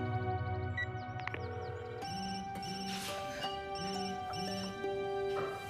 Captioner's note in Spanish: Suena el celular